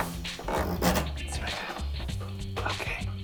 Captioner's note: wheel clicking